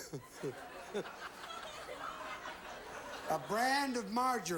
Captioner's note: audience laughing